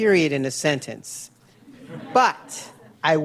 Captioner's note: laughter